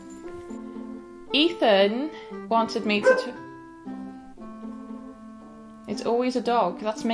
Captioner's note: dog woofs in background